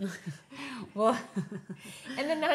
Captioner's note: laughs